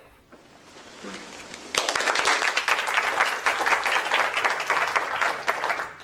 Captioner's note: applause